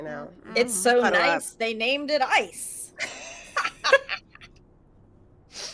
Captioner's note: laughs